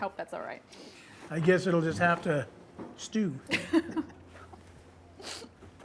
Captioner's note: chuckles